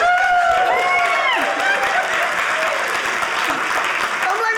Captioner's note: audience laughing; audience cheering